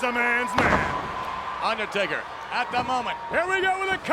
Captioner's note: applause